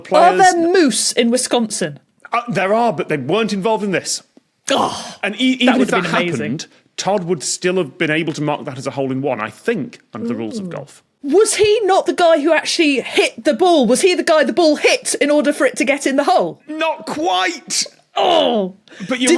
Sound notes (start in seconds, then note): 4.7 groans